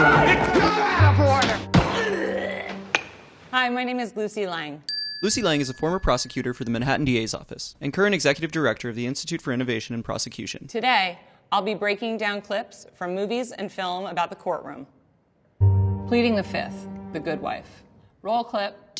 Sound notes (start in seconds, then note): 1.6 gavels bang; 1.7 man groans; 1.8 man screams